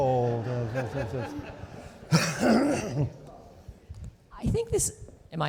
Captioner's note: audience laughing